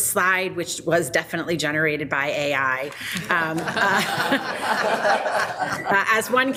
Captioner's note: people laughing